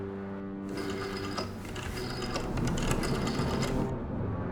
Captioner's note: dialling